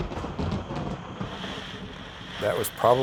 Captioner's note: thunder crashing; rain pattering